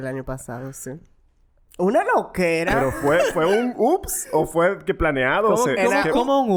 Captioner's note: laughs